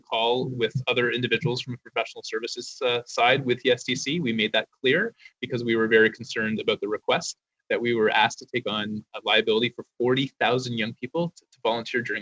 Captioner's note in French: voix de l'interprète